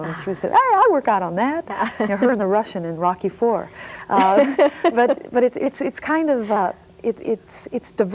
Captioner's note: laughing